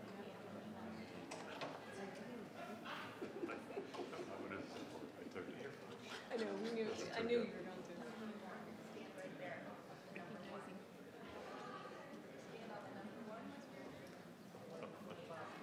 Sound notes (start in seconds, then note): 3.2 member laughs; 5.3 faintly speaking; 12.4 members chattering